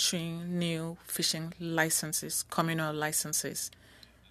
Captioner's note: speaking French